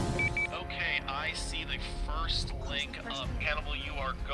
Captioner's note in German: Voiceover